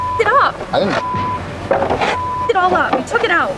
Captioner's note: beeping